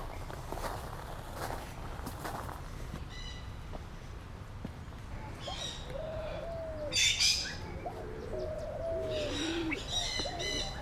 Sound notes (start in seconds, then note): 3.3 birds chirping